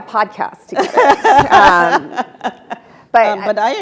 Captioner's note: Elena laughing